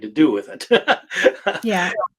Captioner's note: laughs